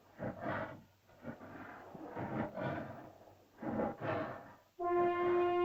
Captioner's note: dinosaur growls; dinosaur breathes heavily; suspenseful music